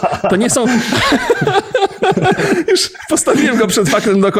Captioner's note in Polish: śmiech